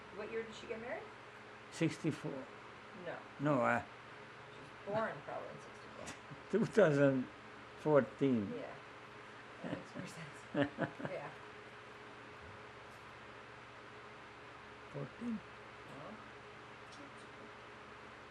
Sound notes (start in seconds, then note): 9.6 laughing; 12.3 pauses 8 seconds